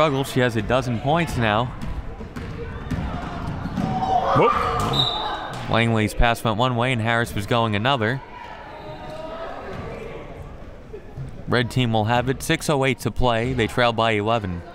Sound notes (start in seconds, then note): 4.8 whistle